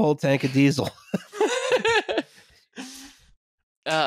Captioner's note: laughter